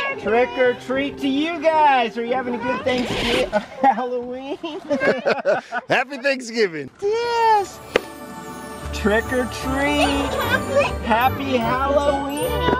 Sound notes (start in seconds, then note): 4.6 laughs